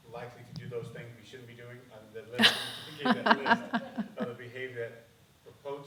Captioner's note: laughing